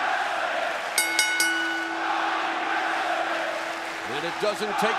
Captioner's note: crowd cheering; bell ringing